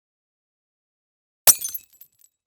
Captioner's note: glass shattering